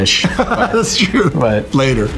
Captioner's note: laughs